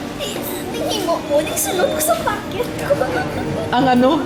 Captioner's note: laughs